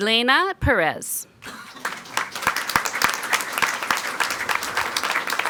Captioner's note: people clapping